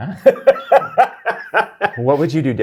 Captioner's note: guy laughs